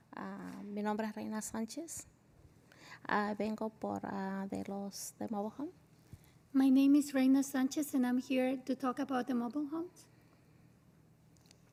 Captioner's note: spanish